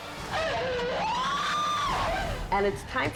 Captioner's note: mom wailing